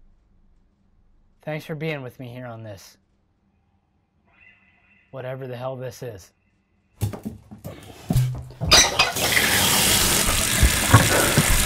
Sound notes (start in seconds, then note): 7.4 heavy water flow